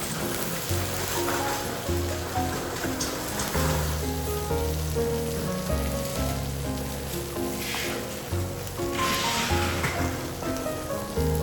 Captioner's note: time to enjoy the sizzling sound